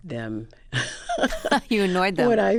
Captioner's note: laughter